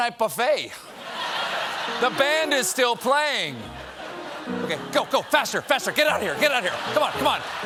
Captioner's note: laughter